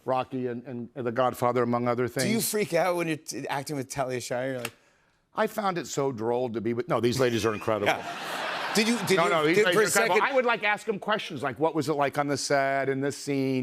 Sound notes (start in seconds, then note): 7.8 laughter